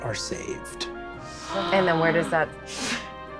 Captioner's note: gasps